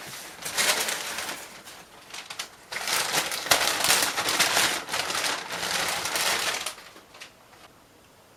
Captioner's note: paper rustling